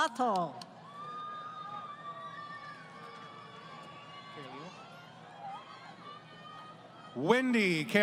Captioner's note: crowd Cheering